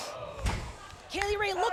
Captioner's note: loud thud